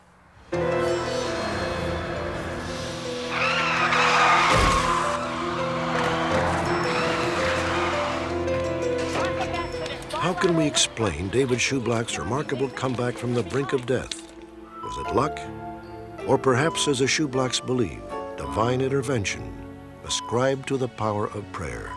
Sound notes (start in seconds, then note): 0.1 suspenseful music; 3.0 tires screeching; 4.4 thumping